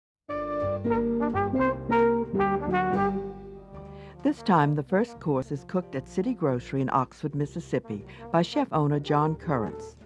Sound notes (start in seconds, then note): 0.6 upbeat jazz music; 4.0 voiceover